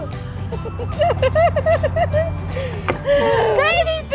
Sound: laughing

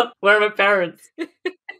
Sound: laughing

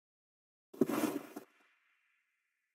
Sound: snowy footstep sound effect

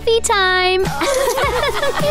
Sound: giggling

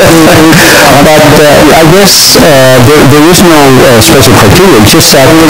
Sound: chuckles

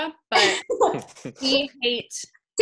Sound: laughing

